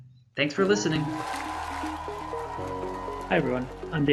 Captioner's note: applause